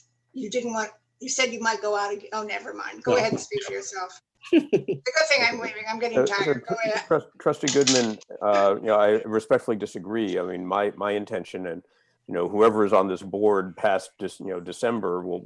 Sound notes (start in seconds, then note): 4.4 laughter